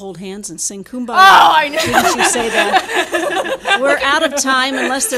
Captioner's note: audience laughing